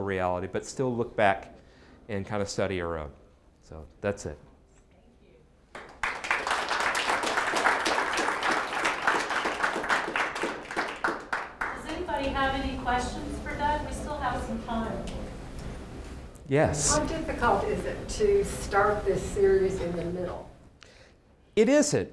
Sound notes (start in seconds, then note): 5.7 applause